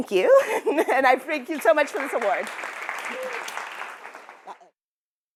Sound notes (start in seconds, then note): 0.3 laughter; 1.3 applause